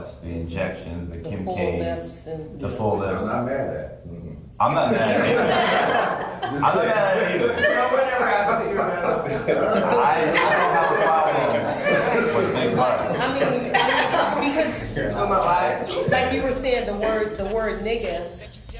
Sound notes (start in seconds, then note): 5.9 group laughs; 13.3 all laugh